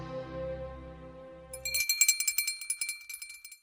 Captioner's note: bell rings